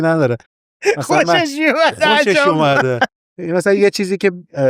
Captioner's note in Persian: خنده